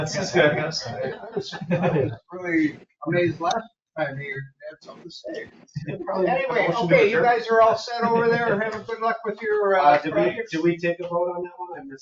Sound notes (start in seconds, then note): 0.0 board members chatter and laugh; 5.4 board members chattering